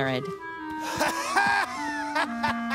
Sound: laughter

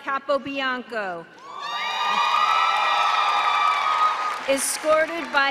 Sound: cheering

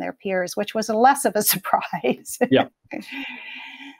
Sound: laughing

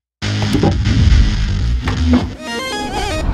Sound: dramatic music; wood knocking on machine; dramatic music

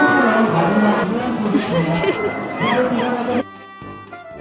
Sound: ha ha ha ha ha

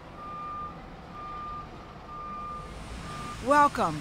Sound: beeping of truck backing up

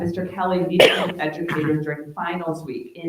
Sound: attendee coughing

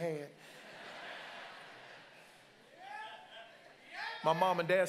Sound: congregants laugh

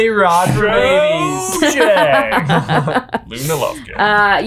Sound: laughing

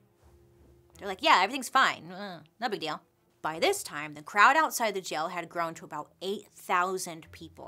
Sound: none

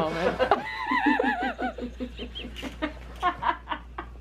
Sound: everyone laughing

